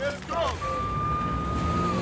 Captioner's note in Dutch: loeiende politiesirenes